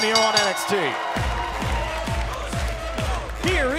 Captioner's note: bell ringing; crowd cheering